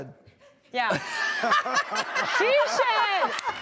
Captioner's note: laughter